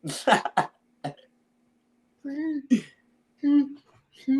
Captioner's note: chuckles